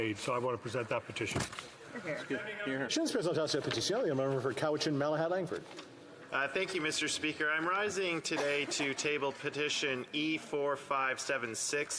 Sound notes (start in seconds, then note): 8.4 speaking French